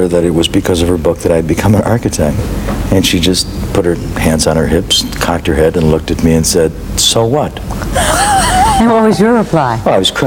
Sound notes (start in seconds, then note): 7.8 laughs